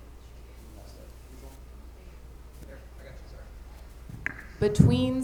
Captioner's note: light chatter